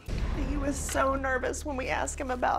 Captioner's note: voice breaking